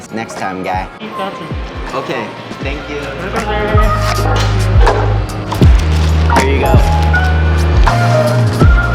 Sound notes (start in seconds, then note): 1.8 distant talking; 3.4 bright R&B music; 3.4 distant talking